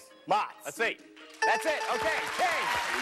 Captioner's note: dings